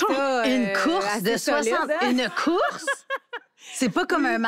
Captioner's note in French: rires